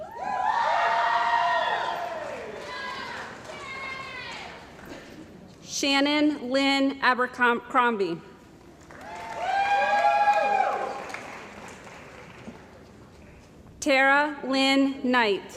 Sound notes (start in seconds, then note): 0.0 cheering & Applause; 8.8 cheering & Applause